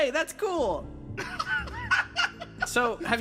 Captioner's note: laugh